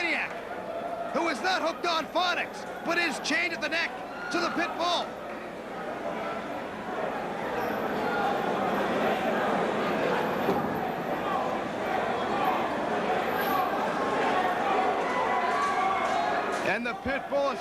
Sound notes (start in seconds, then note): 7.1 crowd chatter